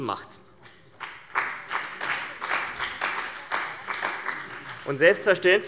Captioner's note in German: Beifall bei dem BÜNDNIS 90/DIE GRÜNEN und der CDU